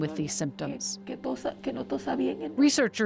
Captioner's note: speaking in foreign language